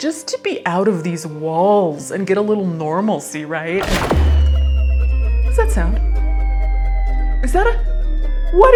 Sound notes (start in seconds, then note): 3.8 catapult clunking; 4.4 air whistling